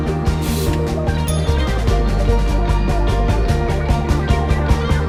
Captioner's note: steam hisses; bell dings